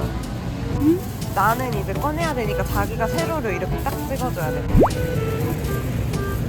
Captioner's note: dripping water